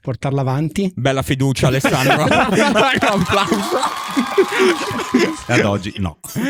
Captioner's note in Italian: applause